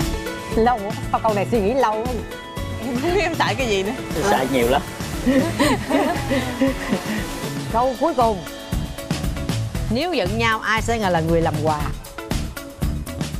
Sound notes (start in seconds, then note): 5.2 laughing